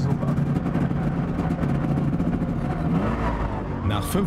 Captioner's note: Trabant engine noise